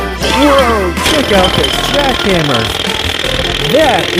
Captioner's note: hammering sound